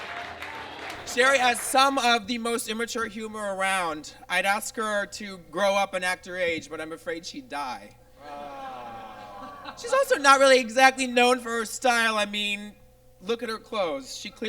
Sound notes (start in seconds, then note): 8.2 groans